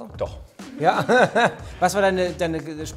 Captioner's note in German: lacht